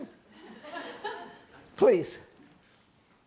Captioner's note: group laughter